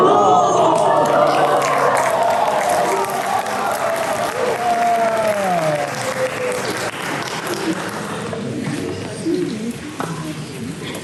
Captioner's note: applause